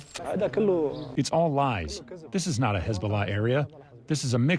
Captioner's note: through translator